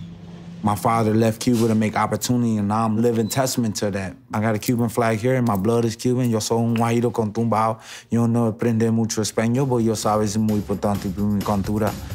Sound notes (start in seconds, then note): 6.3 speaking spanish